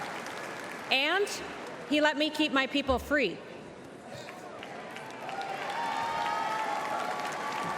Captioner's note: cheers and applause